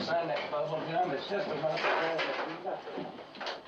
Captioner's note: voice trails off